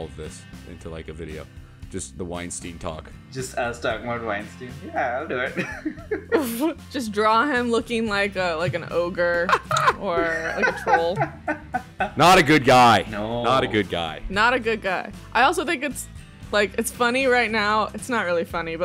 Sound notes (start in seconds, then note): 4.9 laughs; 9.4 laughter